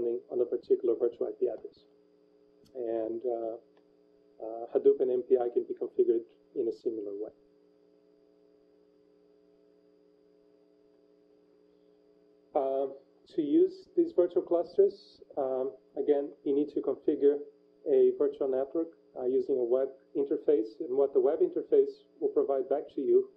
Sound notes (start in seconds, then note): 7.6 pause